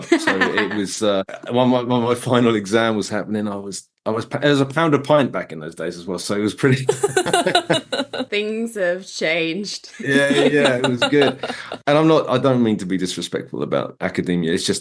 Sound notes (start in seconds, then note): 6.8 laughing